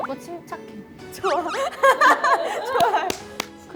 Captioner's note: mature laugh